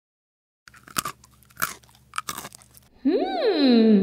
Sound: crunch! Crunch! Crunch!

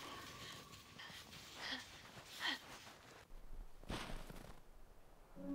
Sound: Brigit panting

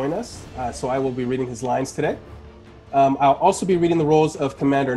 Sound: none

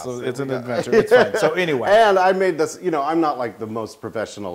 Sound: laugh

